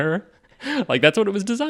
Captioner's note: laughing